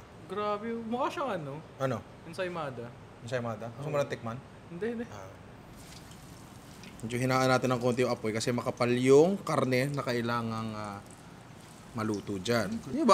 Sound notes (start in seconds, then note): none